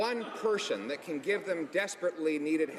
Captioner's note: some laughter